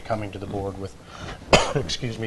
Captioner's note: coughs